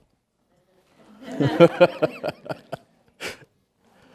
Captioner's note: laughing